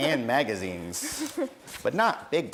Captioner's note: laughs